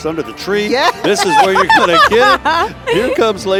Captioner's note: laughing